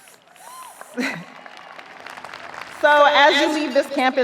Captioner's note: audience cheering; audience applauding